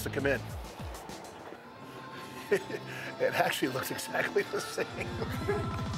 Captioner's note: laugh